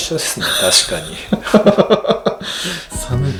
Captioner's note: laughs